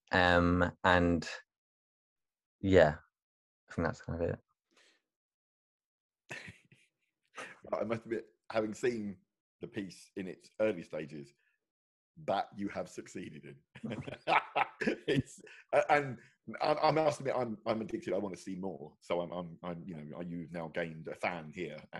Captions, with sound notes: And yeah, and that's kind of it. (laughs) - I must admit, having seen the piece in its early stages, that, you have succeeded in. (both laugh) And I'm asking, I'm addicted. I wanna see more, and you've now gained a fan here.